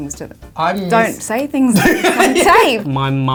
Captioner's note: laughs